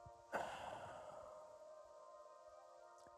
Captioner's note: sighs